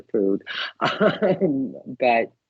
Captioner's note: laughing